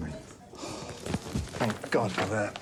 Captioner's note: John sighs